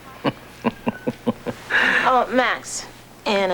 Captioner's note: laughs